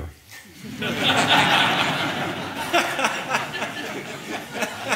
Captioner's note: audience laughing